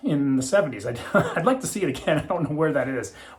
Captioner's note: laughing